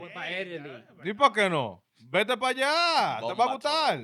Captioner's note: speaking In Foreign Language